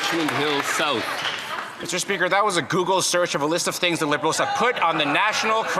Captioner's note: some Applause